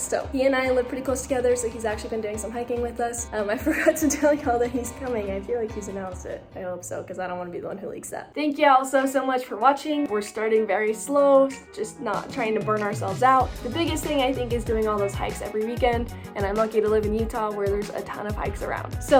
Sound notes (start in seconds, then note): 3.6 laughs